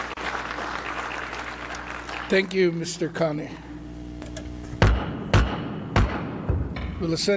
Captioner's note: applause